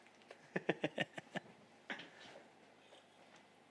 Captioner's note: giggles